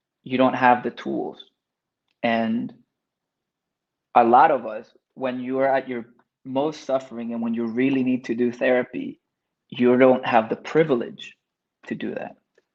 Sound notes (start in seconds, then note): none